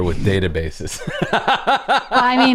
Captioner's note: laughter